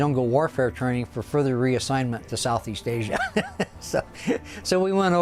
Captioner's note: laughs